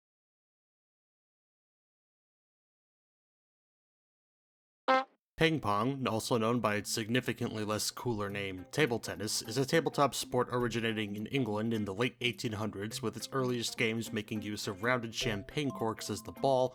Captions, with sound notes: (honk) Ping pong, also known by it's significantly less cooler name "Table Tennis is a tabletop sport originating in England in the late 1800s with it’s earliest games making use of rounded champagne corks as the ball,